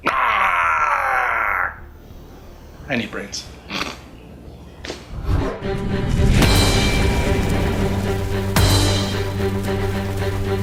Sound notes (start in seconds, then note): 4.3 laughs; 5.4 battle music